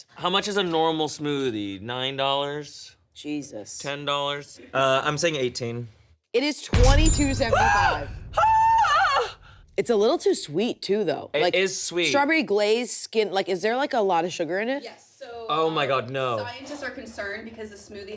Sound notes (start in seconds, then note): 8.3 screams in horror